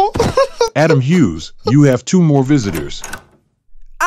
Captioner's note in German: weint